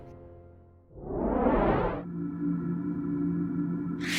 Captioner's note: whoosh; hum; zap